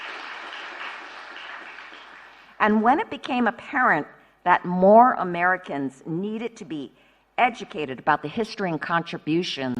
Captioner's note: applause